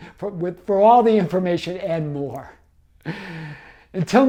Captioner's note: gasping